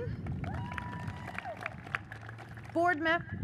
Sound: audience cheers and applauds

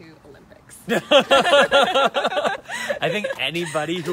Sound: light-hearted laughter

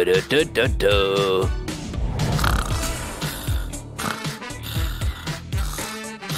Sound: singing; snoring

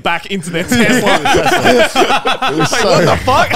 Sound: all laughing

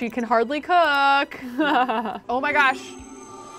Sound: laughs

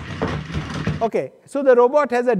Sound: feet clatter

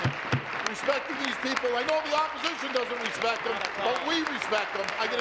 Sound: applause

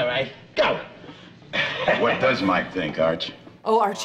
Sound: chuckles

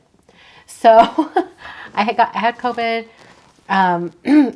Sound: chuckles

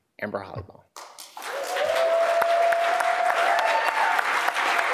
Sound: applause, cheering

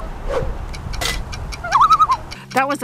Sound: loon call; loon call

